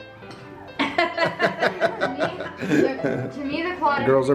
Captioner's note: family chuckling